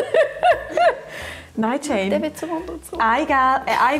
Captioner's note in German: lacht